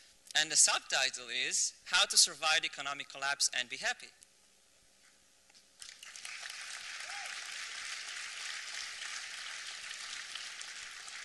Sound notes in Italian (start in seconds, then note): 5.8 applausi